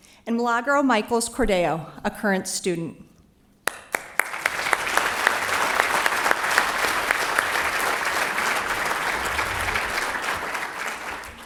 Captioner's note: applause